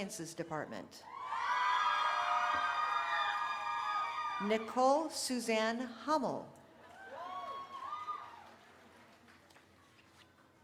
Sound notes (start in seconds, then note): 5.1 cheering